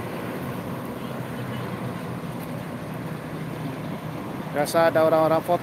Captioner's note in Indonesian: suara kenderaan